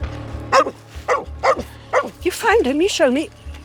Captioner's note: Amber barking